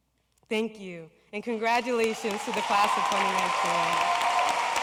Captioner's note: cheering and Applause